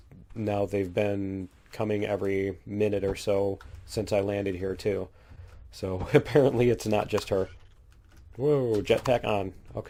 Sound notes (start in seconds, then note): 7.7 laughs